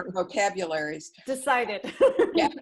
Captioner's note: laughter